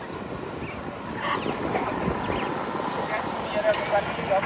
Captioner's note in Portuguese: Pessoas falando e galo cacarejando